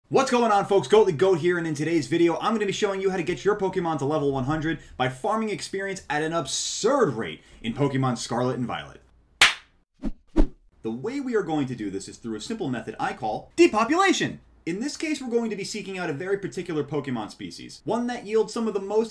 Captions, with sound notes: What's going on folks? Goatly Goat her and in today's video I'm gonna be showing you how to get your Pokemon to level 100 by farming experience at an absurd rate in Pokemon Scarlet & Violet. *Intro Clap* The way we are going to do this is through a simple method that I call, depopulation! In this case, we're going to be seeking out a very particular Pokemon species; one that yields some of the